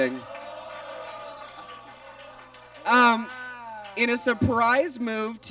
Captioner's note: audience exclaims